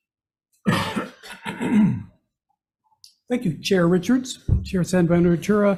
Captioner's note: coughing